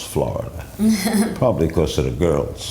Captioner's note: laughs